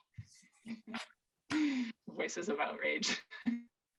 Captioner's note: laughs